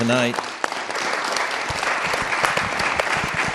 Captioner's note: applause